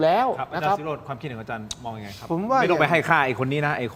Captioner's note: takes a deep breath